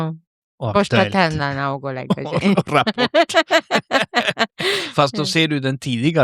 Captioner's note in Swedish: skratt